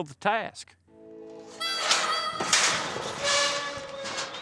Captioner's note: gate clanging open